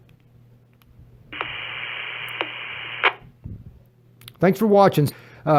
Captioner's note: radio noise